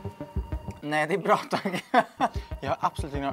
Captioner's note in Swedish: skratt